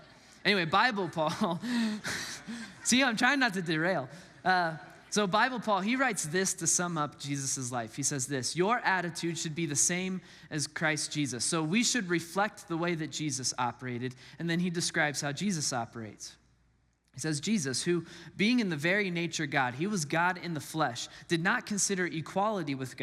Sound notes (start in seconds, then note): 1.3 laughs